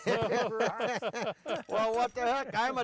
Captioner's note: laughs